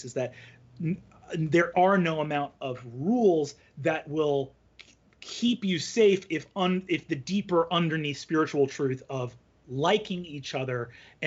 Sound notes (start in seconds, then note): none